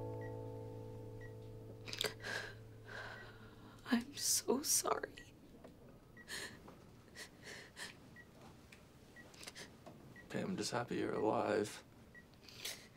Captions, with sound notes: [Ashley sobs over beeping monitors] - I'm so sorry [sobs]. - Hey, I'm just happy you're alive.